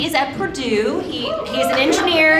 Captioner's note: audience applauding